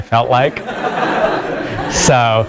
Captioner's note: laugh